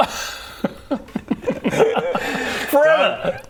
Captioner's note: assumes-he's-joking laughter